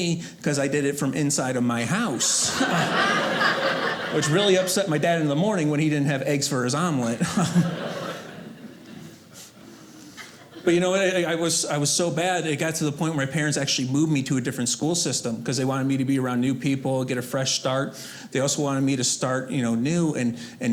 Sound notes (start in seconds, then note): 2.1 audience laughing